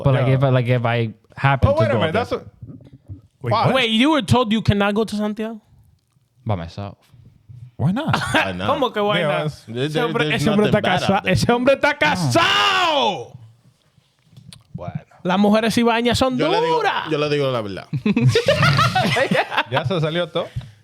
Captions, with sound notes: But like if I happened to go there. Oh, wait a minute, that's a, wait. Wait, you were told you cannot go to Santiago? By myself. Why not? (Speaking In Foreign Language) Why not? (Speaking In Foreign Language) (Laughing) (Speaking In Foreign Language)